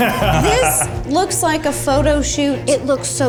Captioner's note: laughs